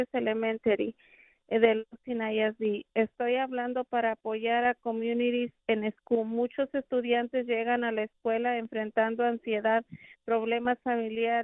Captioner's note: speaking spanish